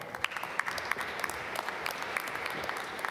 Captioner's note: applause